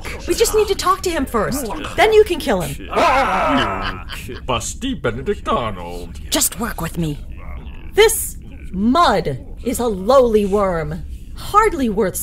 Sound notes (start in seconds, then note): 6.2 whispered